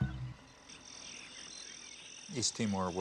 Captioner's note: insects chirring